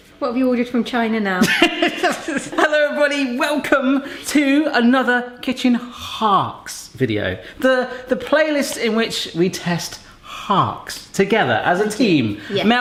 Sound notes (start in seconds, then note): 1.4 laughs